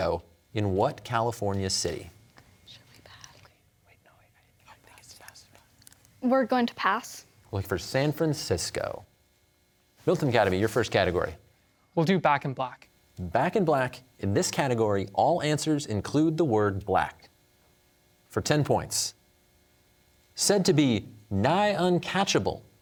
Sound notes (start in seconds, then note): 2.5 whispering; 3.6 team whispering